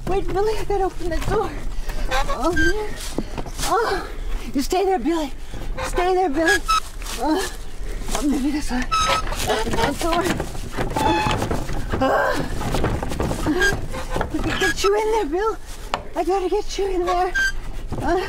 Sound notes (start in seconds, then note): 7.3 Helen grunts; 11.0 door clattering; 12.0 Helen grunting